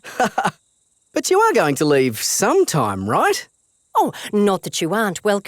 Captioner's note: laughs